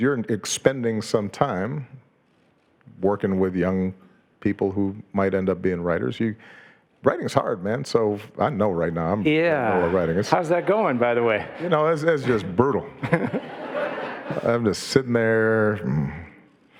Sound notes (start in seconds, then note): 13.3 audience laughing